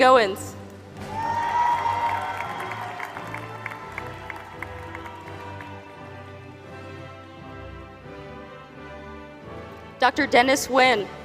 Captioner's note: applause